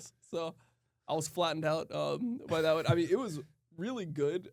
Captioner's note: laughs